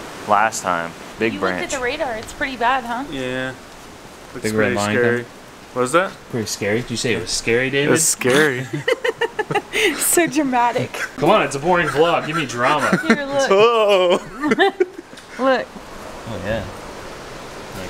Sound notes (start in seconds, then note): 8.2 laughter